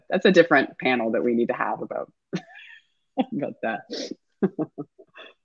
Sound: laughs

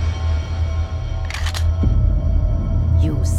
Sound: ominous music; gun cock

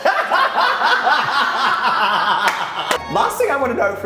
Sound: laughs

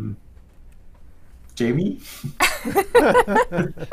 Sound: laughter

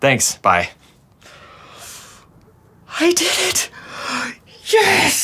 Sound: gasps

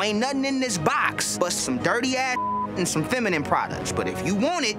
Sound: beep

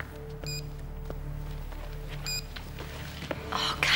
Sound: beeping

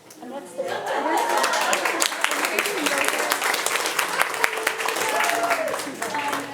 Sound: group laughing and clapping

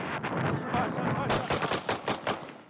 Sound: gunshots

